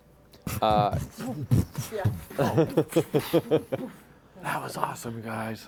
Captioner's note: laughter